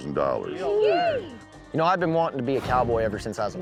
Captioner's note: all cheering